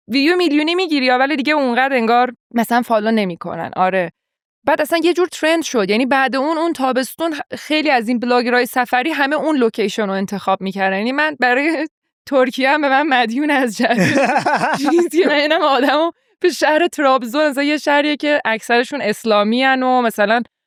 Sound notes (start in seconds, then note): 13.8 laughs